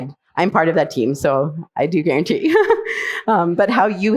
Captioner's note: chuckles